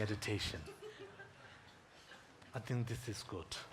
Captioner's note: audience giggling